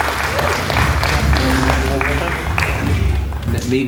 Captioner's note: audience applauding